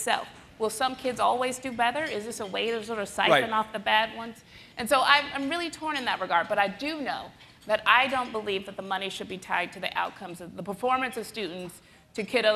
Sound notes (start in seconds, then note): none